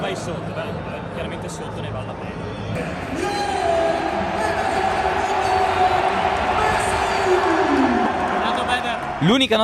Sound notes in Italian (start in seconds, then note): 4.2 Applauso